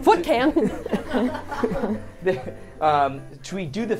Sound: all laughing

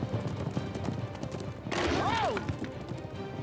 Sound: Kevin screams

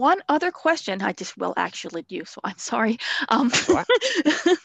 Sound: laughs

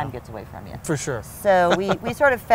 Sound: chuckles

